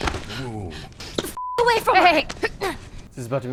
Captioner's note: beeping